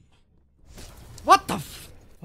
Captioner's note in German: Blitz einschlag